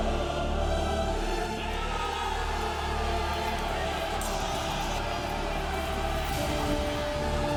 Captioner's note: all shouting